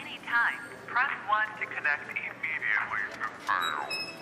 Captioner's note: speaks faintly